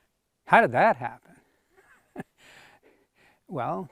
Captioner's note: chuckles